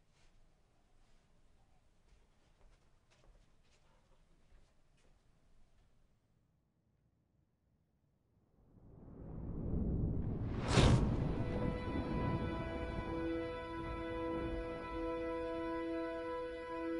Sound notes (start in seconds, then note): 9.0 thunder clap; 13.2 orchestral string music